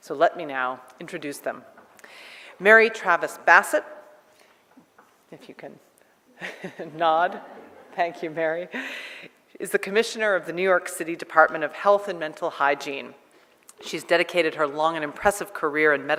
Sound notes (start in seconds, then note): 6.4 laughter